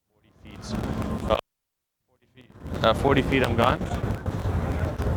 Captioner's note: crackles